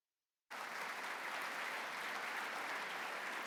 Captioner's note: applause